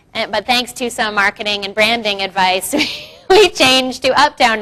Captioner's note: laughs